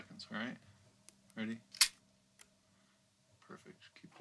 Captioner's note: camera clicks